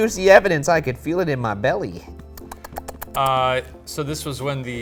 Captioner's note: smacks lips